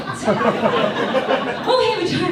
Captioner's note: audience laughs